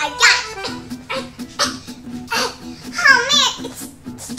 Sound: strained grunts

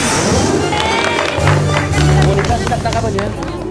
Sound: applause

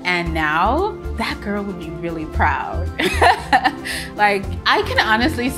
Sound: laughs joyfully

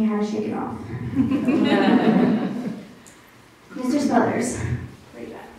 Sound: laughter

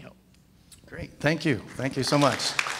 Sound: audience claps

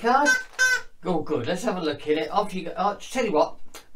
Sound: squeak squeak

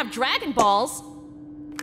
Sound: pop!

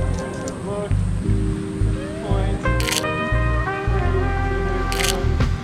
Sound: camera clicking

